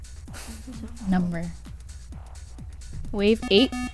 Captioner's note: wispering